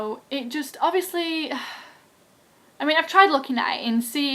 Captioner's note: sigh